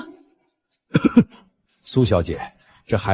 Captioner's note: cough